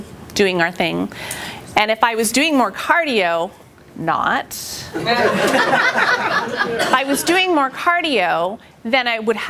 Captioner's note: laughter